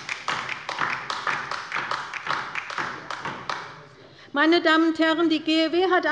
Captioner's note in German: Beifall bei der LINKEN